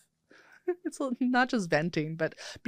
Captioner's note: laughs